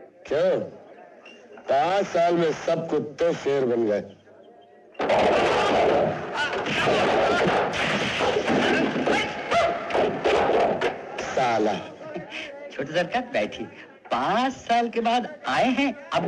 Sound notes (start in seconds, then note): 5.0 fighting Sound